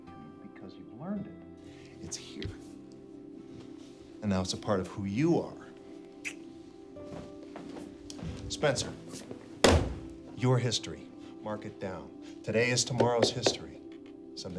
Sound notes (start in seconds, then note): 6.2 clicks tongue; 9.6 hand slaps